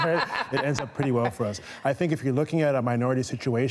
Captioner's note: laughter